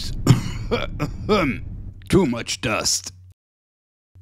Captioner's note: cough